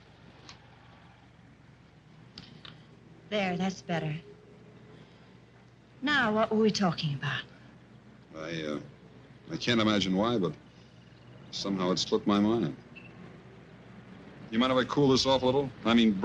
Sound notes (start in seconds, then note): none